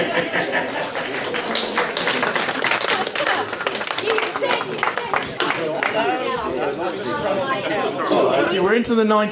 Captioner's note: chuckles; applause